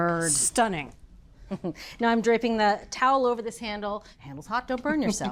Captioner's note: chuckles